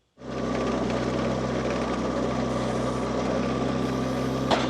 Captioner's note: machinery rumbles